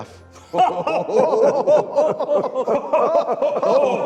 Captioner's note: laughing